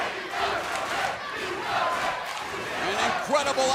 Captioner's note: crowd cheering